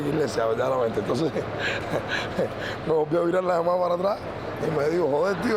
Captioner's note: risas